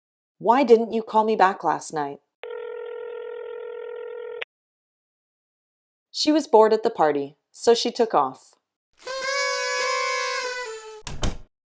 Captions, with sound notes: Why didn’t you call me back last night? [phone ringing] She was bored at the party, so she took off. [party sounds, door closing]